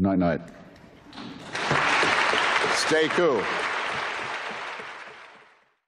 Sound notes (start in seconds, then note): 1.1 applause